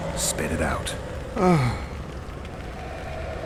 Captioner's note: sigh